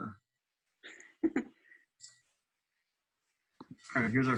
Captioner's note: chuckling